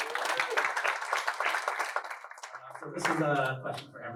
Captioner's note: applause